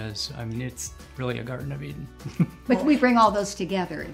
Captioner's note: laughs